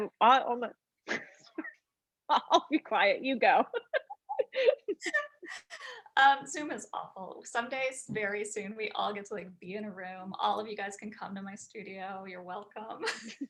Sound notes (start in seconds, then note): 3.5 women laughing; 13.0 woman laughs